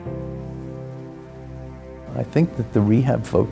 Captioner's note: wind bristling tree leaves